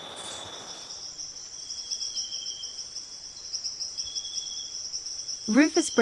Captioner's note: multiple birds chirping